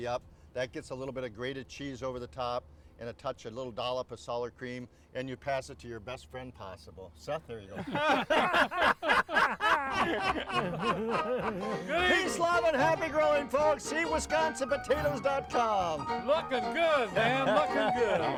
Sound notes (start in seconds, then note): 7.7 all laughing; 10.5 upbeat music